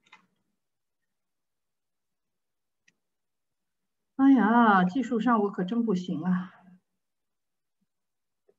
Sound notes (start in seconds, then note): 4.1 speaking in foreign language